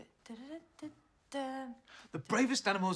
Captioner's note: humming